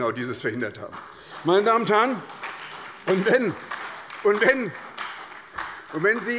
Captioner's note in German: Beifall bei der SPD